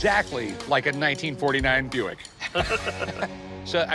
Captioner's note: laughter